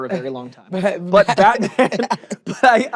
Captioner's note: laughs